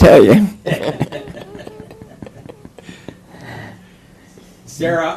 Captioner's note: laughter